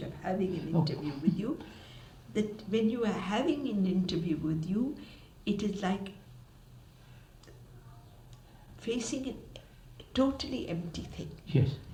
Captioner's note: K laughs